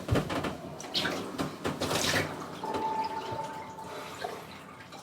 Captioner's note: water splashing